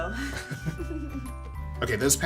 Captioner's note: chuckling